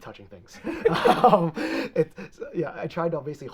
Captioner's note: both laughing